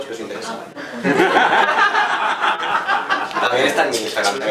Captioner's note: laughs